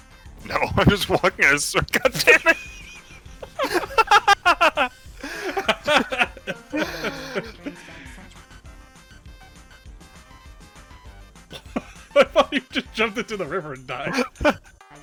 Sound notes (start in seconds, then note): 2.7 both laughing; 14.0 laughs